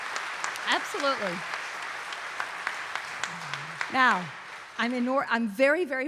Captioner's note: audience cheering and applauding